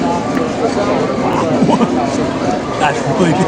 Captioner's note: laughs